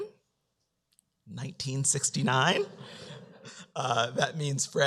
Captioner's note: laughter